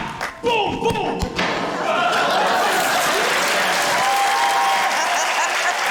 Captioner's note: thud!; laughter, cheering, applause